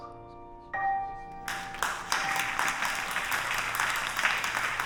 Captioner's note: applause